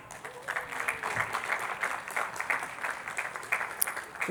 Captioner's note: attendees clapping